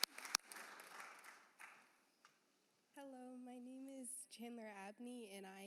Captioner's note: applause